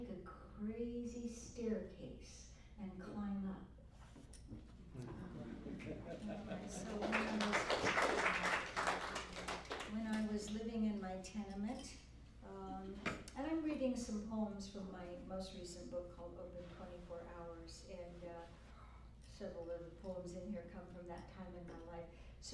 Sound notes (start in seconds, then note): 6.7 applause